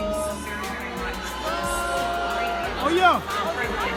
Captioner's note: crowd boos